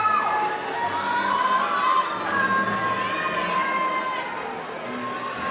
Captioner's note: audience cheering